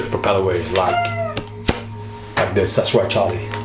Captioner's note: Charlie squeaks